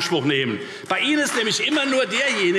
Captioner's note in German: Beifall Freie Demokraten, vereinzelt CDU, BÜNDNIS 90/DIE GRÜNEN und SPD